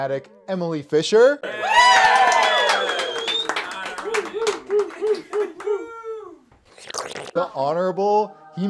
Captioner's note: cheers